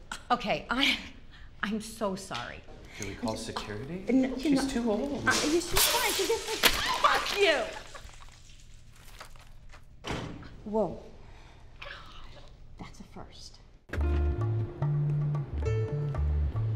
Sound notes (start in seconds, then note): 6.6 loud crash; 13.9 soft music